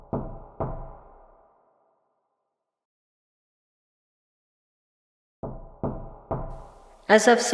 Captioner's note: knocking on door